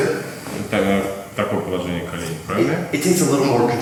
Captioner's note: speaking in a foreign language